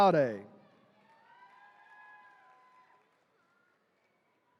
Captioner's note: attendees cheering